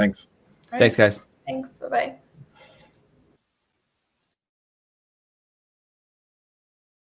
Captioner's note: computer mouse clicks